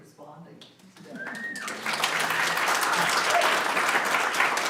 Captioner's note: audience claps